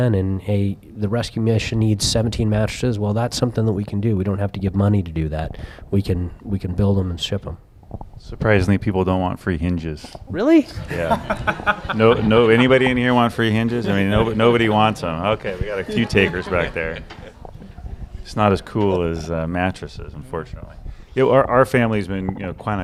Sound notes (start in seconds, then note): 10.8 laughter